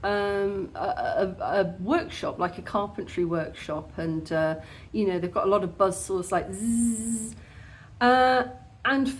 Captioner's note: zzzz